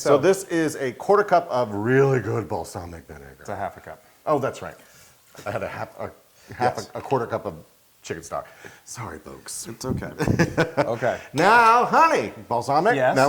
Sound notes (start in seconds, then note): 10.1 laugh